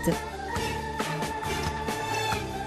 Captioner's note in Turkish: Müzik - Arabesk; Kapı açılma sesi